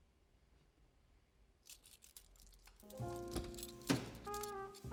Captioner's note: clicks of a small chain; soft Jazz Music